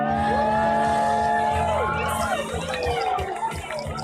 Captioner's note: crowd cheering